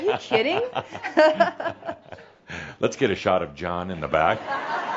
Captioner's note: they both chuckle